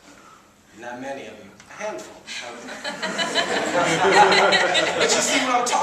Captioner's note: laughter